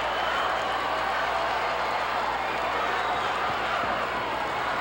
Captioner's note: audience cheering and clapping